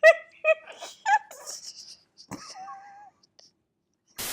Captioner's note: laughing